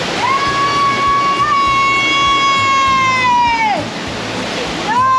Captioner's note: screams